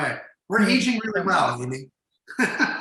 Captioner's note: laughs